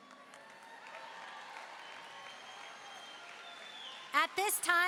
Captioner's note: applause and cheering